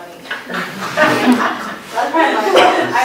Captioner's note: laughter